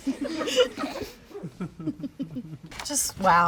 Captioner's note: all chuckle; chuckles